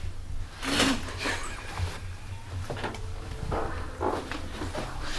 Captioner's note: laughter